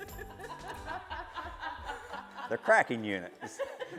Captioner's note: laughing